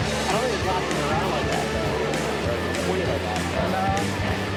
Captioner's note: people chattering